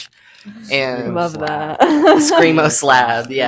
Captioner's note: laughing